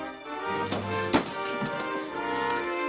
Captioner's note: thudding